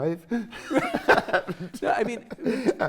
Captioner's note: laughing